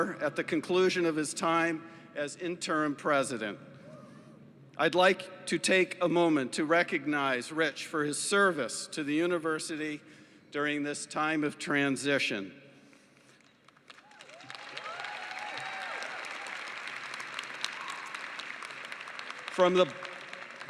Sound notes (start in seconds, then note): 13.2 applause